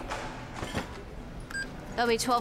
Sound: beeping

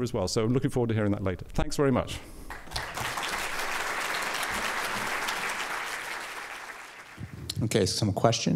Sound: applause

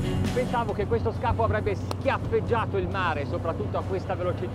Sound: speaking in foreign language

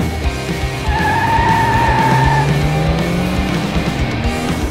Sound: tires screeching

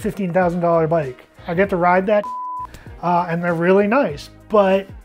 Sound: beep

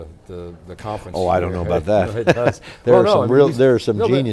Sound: laughs

